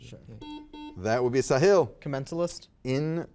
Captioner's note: buzzer buzzes